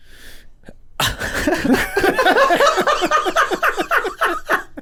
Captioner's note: men laughing